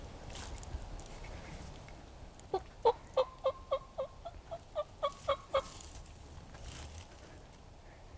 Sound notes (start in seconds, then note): 2.5 turkey calling